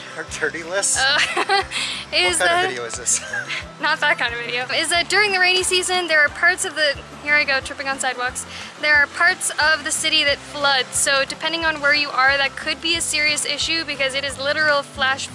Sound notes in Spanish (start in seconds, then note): 3.1 Risas